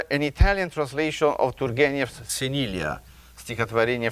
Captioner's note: speaking in a foreign language